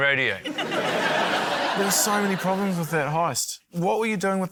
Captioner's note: laughter